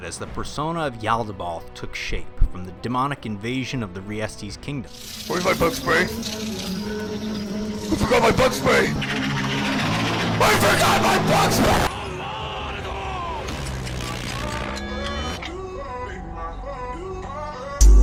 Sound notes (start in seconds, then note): 6.6 unnerving bug scuttling; 9.1 excessively unsettling bug scuttling